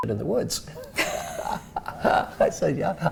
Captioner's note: laugh